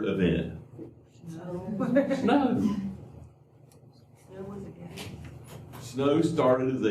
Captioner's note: laughter